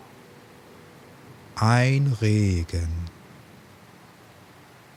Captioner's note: german